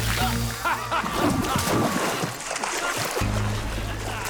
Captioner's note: laughing